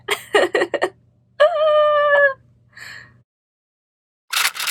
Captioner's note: awkward laughter